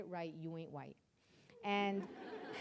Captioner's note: audience laughing